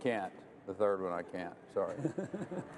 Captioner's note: laughter